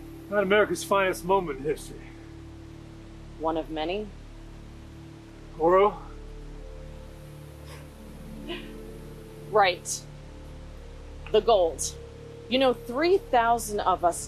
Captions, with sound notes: Not America's finest moment in history. One of many. Oro? [laughs] Right. The gold. You know, 3,000 of us